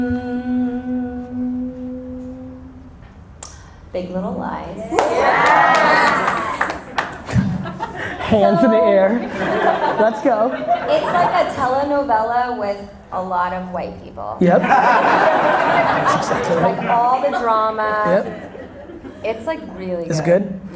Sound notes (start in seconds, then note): 4.8 audience cheering; 9.3 audience cherring; 14.5 audience laughter